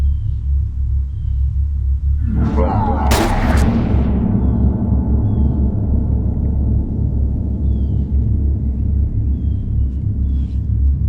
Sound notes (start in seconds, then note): 0.9 droning music continues; 2.5 Crinoline Head shouts; 3.1 shotgun blasts; 8.0 low droning music